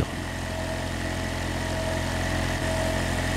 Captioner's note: machine noise